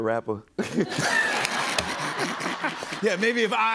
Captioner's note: laughter